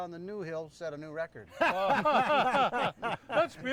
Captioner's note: group laughing